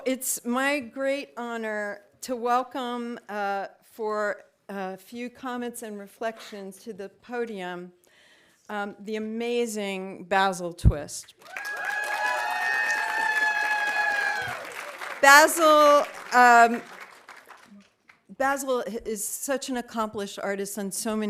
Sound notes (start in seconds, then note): 11.4 audience applauding; 11.4 audience cheering